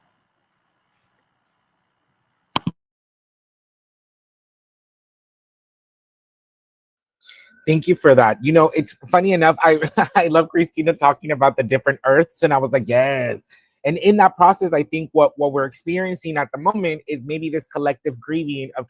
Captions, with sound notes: - Thank you for that. You know, funny enough, (laughs) I love Christina talking about the different earths and I was like, "Yes." And in that process I think what we're experiencing at the moment is maybe this collective grieving